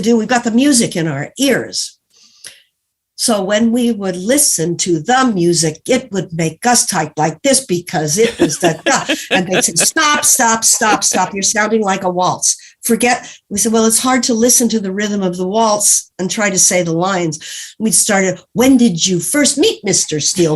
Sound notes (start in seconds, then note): 4.0 said in staccato; 8.2 laughs